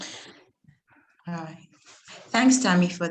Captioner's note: chuckles